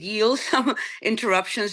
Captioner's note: chuckling